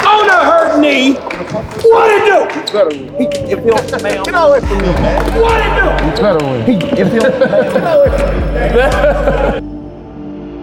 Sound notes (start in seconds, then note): 7.4 men laughing